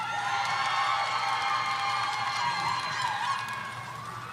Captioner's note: audience cheering